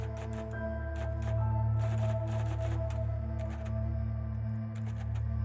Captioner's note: typewriter clicking